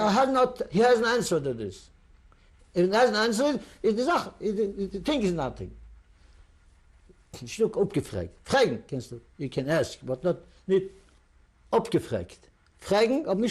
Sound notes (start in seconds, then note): 3.6 non-english; 7.4 non-english; 11.1 non-english; 12.7 non-english speech